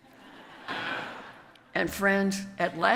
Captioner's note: audience laughs